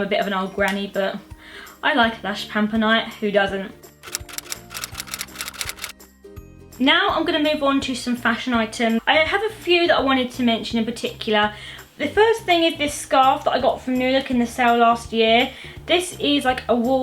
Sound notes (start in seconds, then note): 4.0 typewriter sound effect